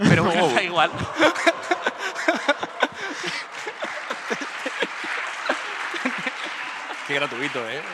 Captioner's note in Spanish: Aplausos